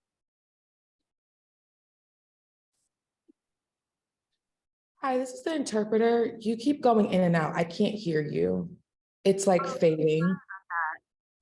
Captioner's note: no audio